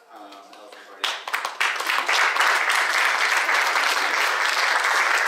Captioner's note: audience applauding